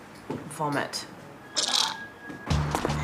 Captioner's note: retches